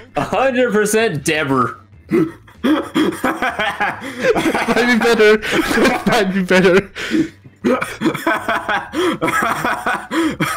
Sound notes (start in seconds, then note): 2.1 break out in laughter